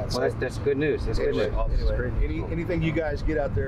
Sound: all chattering

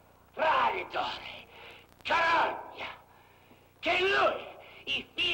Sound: shouting in italian

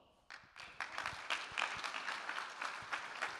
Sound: audience claps

